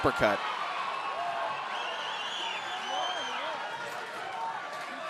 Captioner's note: audience cheering